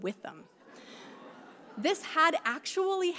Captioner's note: audience laughing